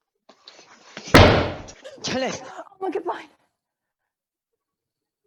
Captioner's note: books fall on the floor; everyone panics